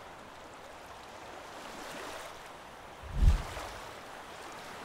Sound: waves crashing

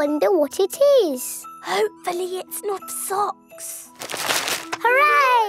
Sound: whispering

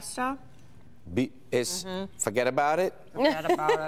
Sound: laughter

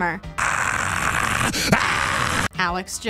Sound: screaming

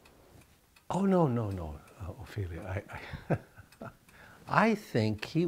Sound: laughs

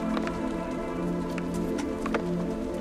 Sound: flames crackling; gentle music continues

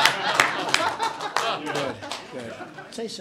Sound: laughter and applause

